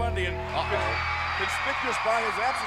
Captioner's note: audience cheering